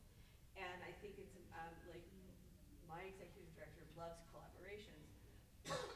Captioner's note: stammers